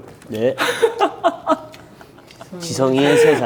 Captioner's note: laughing right away